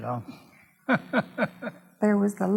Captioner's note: laughs